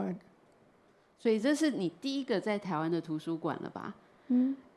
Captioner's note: Mandarin